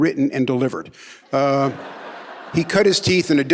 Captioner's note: audience laughing